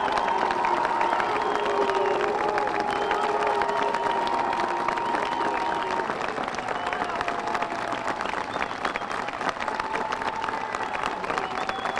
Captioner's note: applause